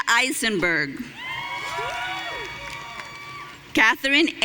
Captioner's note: audience cheering